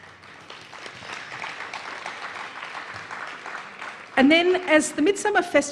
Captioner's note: applause